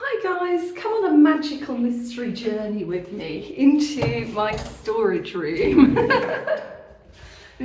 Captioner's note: laughing